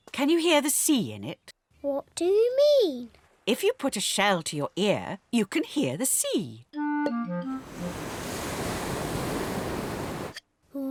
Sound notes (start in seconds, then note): 7.6 waves crash and swoosh